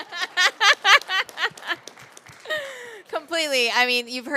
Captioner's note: laughing